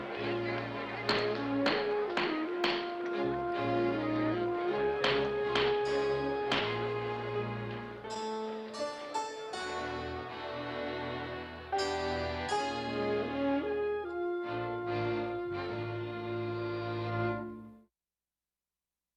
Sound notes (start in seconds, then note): 2.1 gavel Rapping